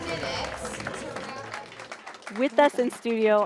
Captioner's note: audience applauding